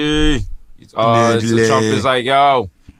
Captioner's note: in donald trump voice